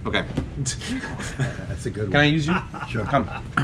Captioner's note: laughing